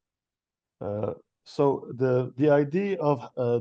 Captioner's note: speaking in French